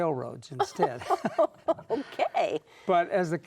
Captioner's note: laughing